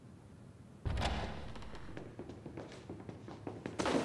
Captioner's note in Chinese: 開門聲; 腳步聲